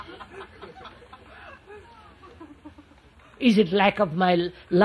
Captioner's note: laughter